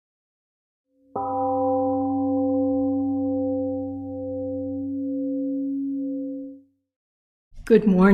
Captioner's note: temple gong rings and fades